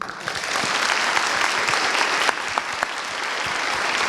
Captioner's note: applause